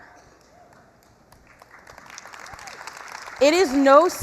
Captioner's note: applause